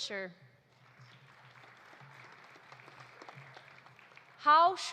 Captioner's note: audience applauding